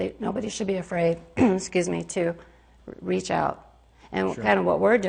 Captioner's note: coughs